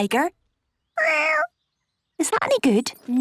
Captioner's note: small meow